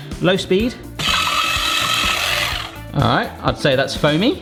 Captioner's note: whisk whizzing